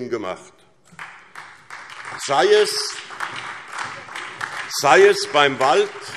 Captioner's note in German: Beifall SPD und vereinzelt Freie Demokraten